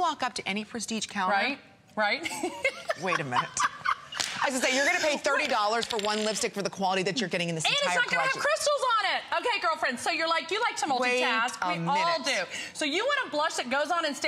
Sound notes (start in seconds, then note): 6.4 laughter